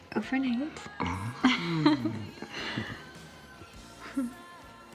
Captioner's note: both laughing